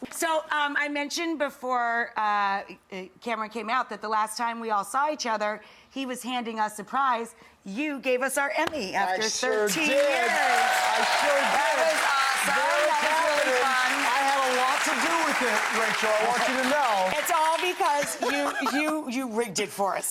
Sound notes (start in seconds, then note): 10.4 audience cheering and clapping